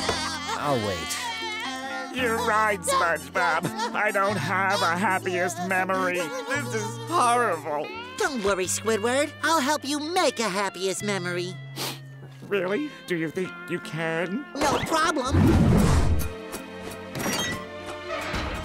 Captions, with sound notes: I'll wait. You're right, SpongeBob, I don't have a happiest memory. This is horrible. Don't worry, Squidward. I'll help you make a happiest memory. [sniffles] Really? Do you think you can? No problem. [door opening, closing]